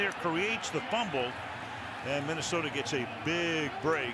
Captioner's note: pa announcement